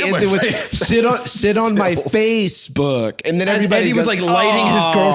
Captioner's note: groans